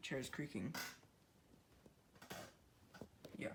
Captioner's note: chair creaking super a lot